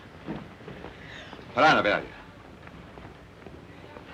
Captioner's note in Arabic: هارتز يتحدث لغة أجنبية